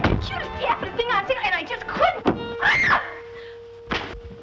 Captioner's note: scream